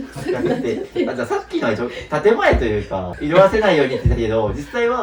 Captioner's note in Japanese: 笑い